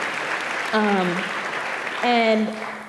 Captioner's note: audience applauding